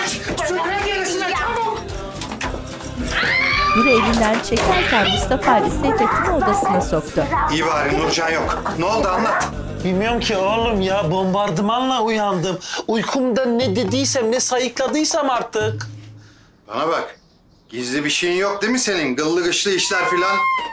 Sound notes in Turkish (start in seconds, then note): 3.0 Bağırma sesi